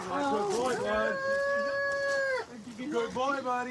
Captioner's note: wails